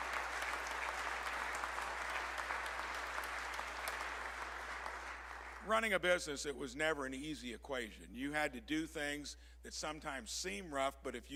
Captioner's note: applause